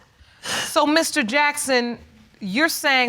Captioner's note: sniffles